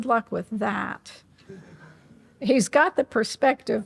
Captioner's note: audience laughing